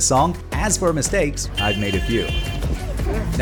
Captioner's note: car horn